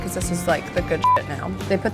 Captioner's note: beep